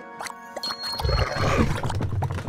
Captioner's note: pigs growl